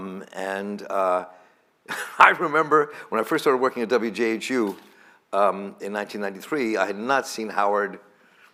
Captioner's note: laughs